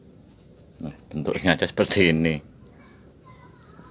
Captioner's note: laughs